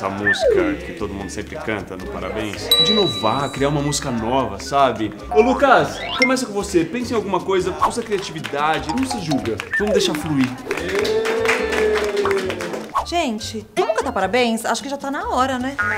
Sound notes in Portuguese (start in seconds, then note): 11.4 palmas